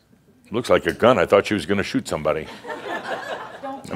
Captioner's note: laughter